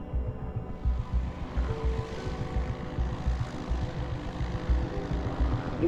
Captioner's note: quiet tense music; plane engine droning